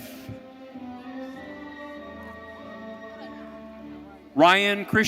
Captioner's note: audience cheering